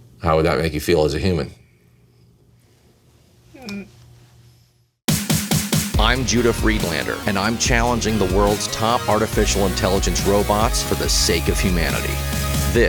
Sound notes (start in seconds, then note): 3.6 groans; 5.0 intense music